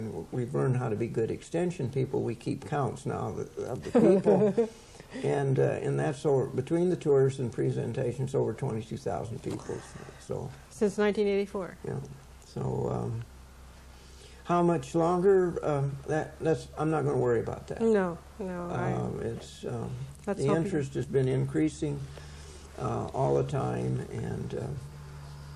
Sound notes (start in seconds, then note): 3.7 laughing